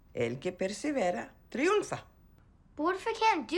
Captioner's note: speaking in Spanish